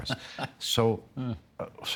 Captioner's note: chuckling